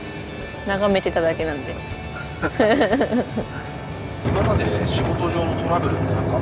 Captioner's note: haha